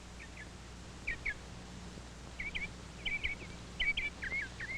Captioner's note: birds chirping